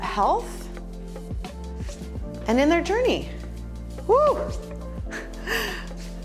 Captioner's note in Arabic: يضحك